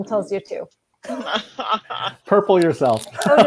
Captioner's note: laughing